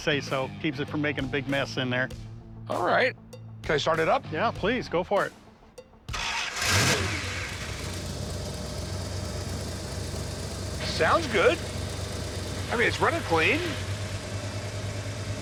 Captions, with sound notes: Keeps it from making a big mess in there. - All right. Can I start it up? - Yeah, please, go for it. [engine revs] [engine rumbling] - Sounds good. I mean, it's running clean.